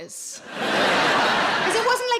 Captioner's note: audience laughing